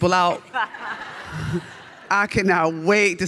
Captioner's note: audience laughs